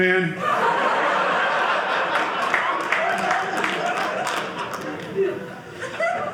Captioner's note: audience laughing